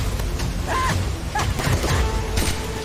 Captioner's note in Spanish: Ríe